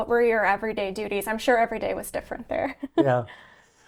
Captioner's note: chuckles